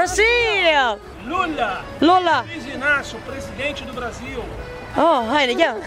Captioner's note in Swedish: Pratar portugisiska